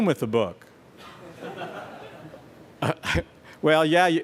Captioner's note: laughter